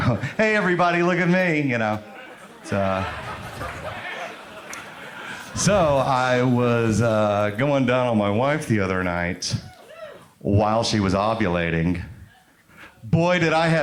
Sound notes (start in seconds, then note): 2.2 crowd laughs